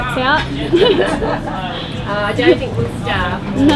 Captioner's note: laughing